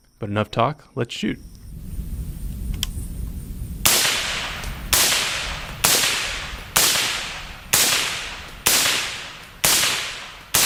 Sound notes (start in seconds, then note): 4.8 gunshots firing